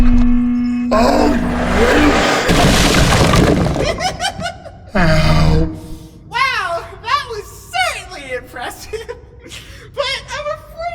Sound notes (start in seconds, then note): 3.8 cast laughs hysterically